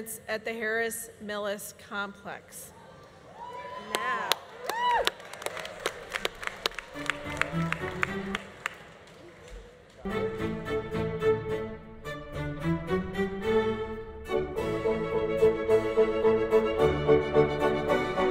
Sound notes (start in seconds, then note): 3.6 audience applauding; 4.7 audience cheering; 7.0 bright music; 14.5 bright music continues